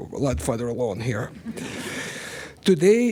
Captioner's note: laughter